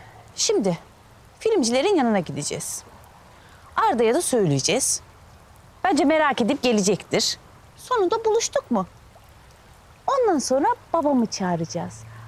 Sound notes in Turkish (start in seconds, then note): none